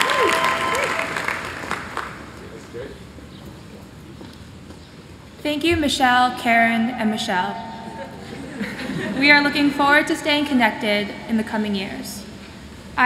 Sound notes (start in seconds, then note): 7.9 laughter